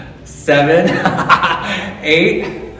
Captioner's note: laughing